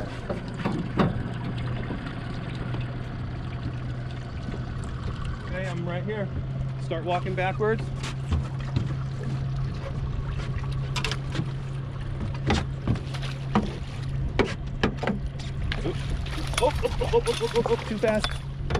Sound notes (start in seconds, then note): 0.1 water lapping; 10.4 clanking; 14.2 fish splashing